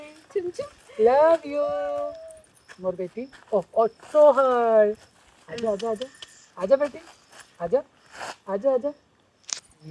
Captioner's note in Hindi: नाक से की जाने वाली आवाज़